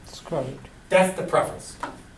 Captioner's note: voiceover